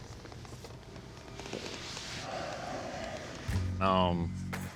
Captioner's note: sighs